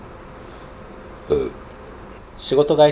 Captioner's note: burp